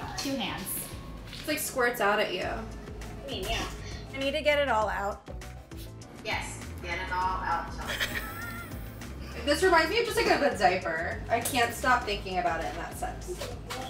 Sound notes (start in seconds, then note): 7.8 laugh